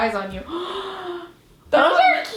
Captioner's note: gasps